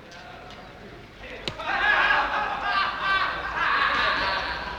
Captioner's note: laughter